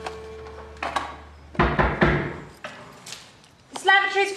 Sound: knock on door

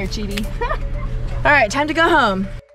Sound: laughs

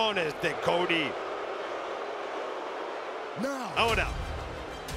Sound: applause

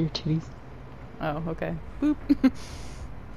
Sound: giggles

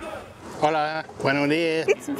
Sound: in Spanish

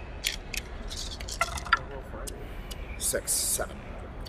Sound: dice rattling

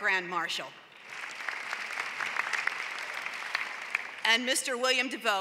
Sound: applause

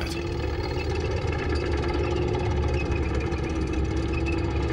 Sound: tank rumbling

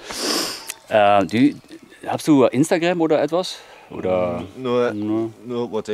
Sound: speaking German

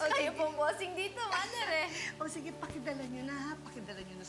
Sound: chuckles

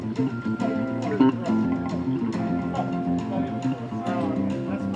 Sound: chatter

